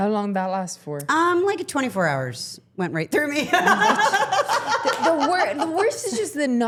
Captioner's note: laughing